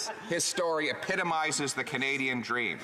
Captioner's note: laughter